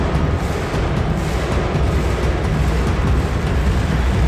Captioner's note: people cheering